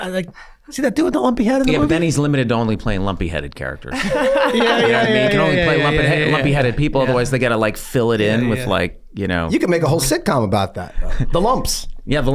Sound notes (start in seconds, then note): 3.9 Rob laughs; 3.9 laughs